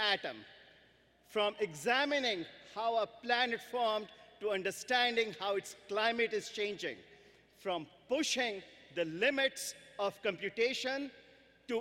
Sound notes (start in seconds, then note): none